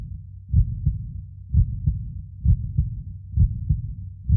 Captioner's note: heart beating